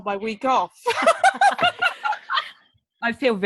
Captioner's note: laughs